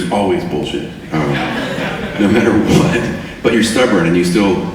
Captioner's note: audience laughing